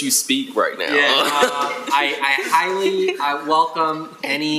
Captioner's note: laughing